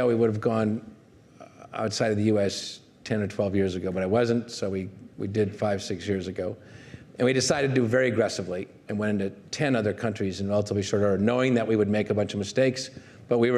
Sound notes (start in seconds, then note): none